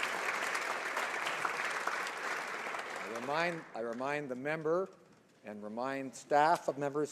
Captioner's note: some Applause